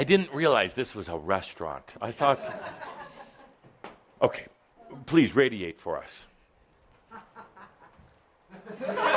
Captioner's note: laughter